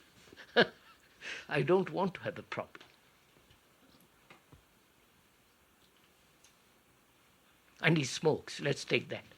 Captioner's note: laughs